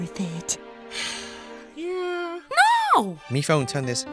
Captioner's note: sigh